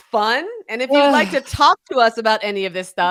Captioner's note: chuckling